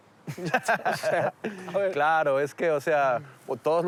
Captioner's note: laughs